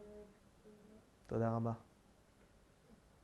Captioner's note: hebrew